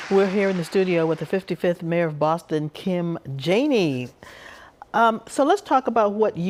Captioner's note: applause